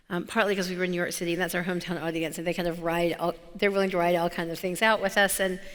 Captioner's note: none